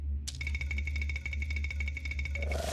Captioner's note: teeth chattering